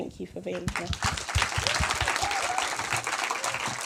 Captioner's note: applause